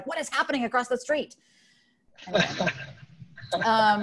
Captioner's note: laughs